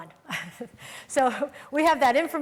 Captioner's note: laughing